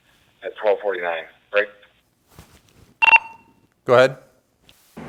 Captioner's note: beep